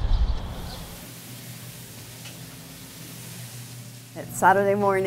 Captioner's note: pot sizzling